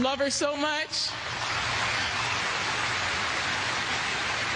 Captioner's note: crowd applauding